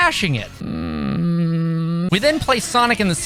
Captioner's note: soft groan